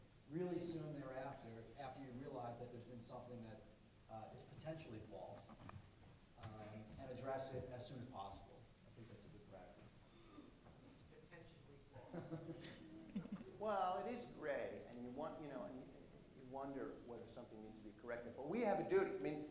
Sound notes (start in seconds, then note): 12.0 laughter